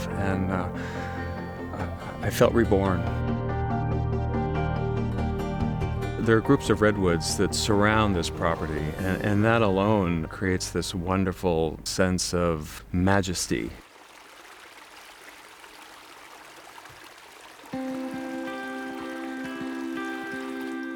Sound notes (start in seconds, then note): 13.3 water trickling; 17.6 gentle music